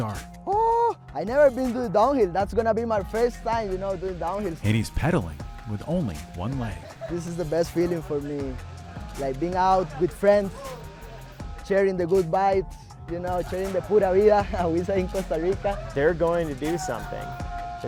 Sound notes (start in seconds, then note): 14.0 speaks Spanish